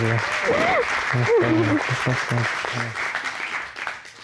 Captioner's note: sobbing